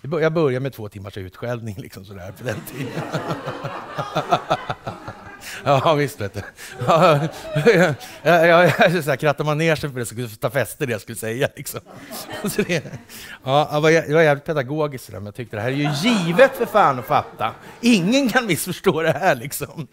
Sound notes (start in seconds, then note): 5.8 laughter; 12.3 laughter